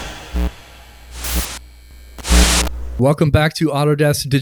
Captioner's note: static buzzing